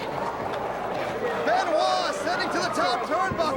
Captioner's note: crowd chatter